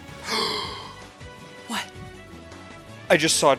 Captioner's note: gasp